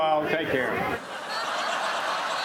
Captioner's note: laughter